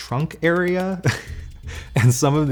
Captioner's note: chuckles